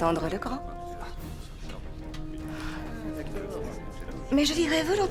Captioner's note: Cicero chuckles